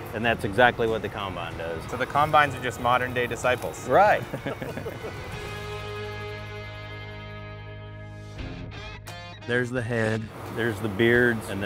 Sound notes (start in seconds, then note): 4.1 laughing; 5.5 light music continues; 8.5 upbeat music